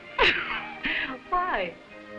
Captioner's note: Baroness laughing